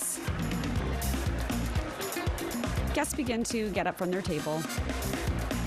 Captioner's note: applause